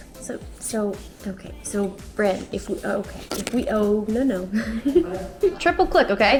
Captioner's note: giggles